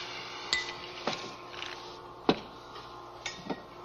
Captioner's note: glass clinking